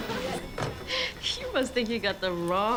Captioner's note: chuckling